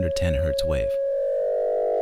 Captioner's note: modulated 550 Hz sine wave playing